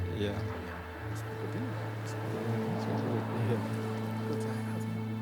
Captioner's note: guests chattering